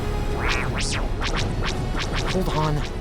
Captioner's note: R7 beeping